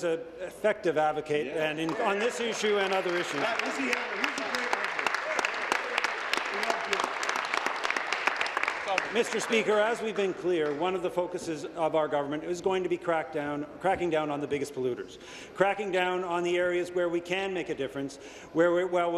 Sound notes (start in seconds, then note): 6.9 applause